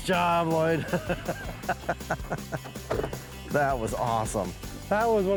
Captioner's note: laughing